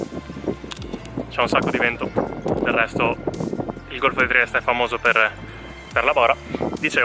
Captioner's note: wind